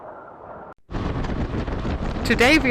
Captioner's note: wind whistling; engine rumbling